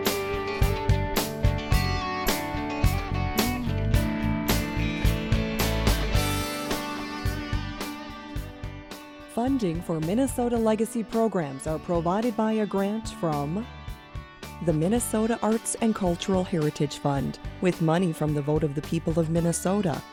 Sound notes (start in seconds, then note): 9.3 voiceover